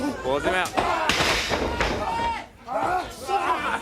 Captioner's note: crowd cheering